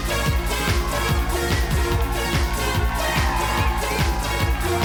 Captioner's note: audience cheering